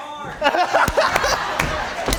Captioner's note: laughter